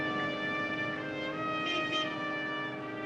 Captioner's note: car honks